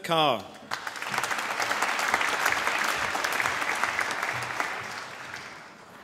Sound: applause

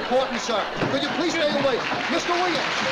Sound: applause

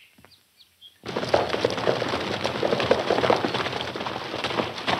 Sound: birds chirping; hooves clopping

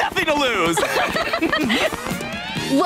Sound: laughing

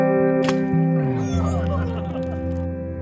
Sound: children laughing and cheering

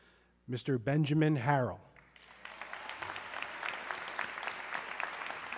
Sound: audience clapping

